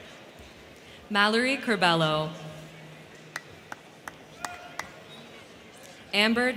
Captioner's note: crowd cheering